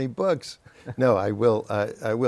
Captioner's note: laughter